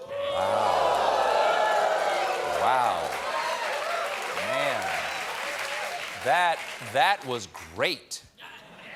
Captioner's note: audience reacts